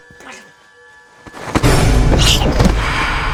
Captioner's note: whispering